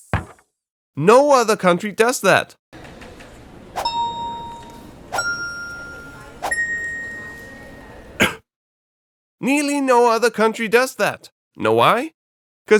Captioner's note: cough